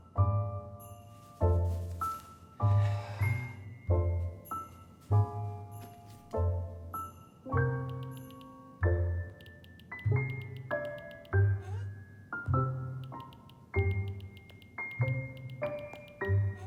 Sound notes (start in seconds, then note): 0.2 jaunty Christmas music; 7.5 phone tapping; 10.3 jaunty Christmas music; 10.3 phone tapping